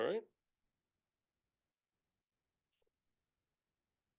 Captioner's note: silence